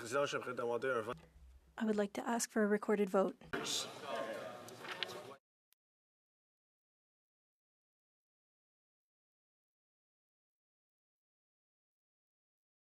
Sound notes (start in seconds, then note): 3.8 speaking French